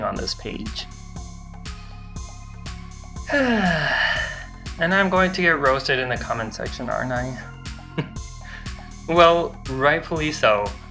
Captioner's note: sighs